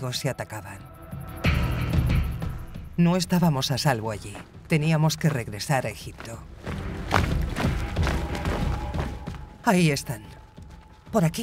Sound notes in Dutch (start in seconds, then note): 0.1 gespannen muziek; 6.5 voetstappen dreunen